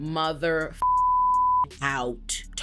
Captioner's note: beep